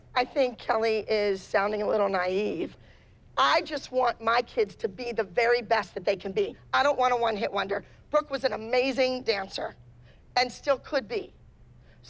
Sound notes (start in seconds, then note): none